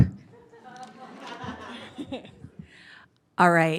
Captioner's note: audience laughing